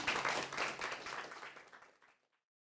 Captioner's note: audience clapping